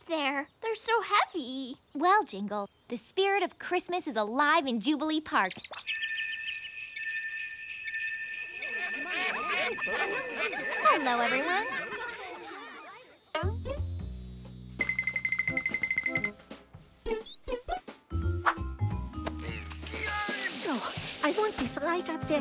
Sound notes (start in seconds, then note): 5.8 bells jingling; 8.6 chattering